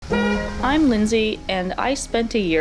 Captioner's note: honk